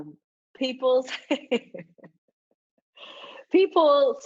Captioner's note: laughs